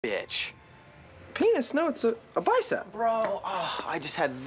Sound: sighs

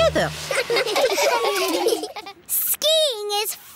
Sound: laughing

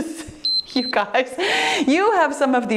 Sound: timer beeps

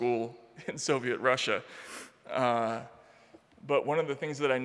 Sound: chuckling

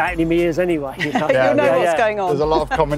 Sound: all laugh

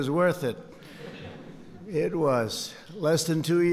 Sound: laughter

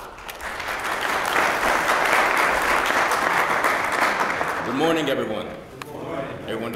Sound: applause

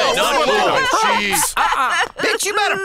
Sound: cries

